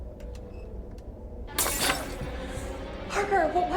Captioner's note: tense instrumental music; shattering